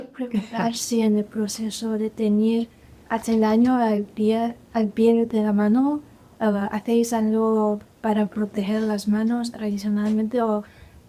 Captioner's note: guest 14 speaking spanish